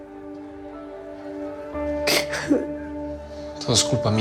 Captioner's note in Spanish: Sollozos